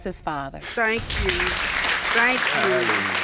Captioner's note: laughing; audience applauds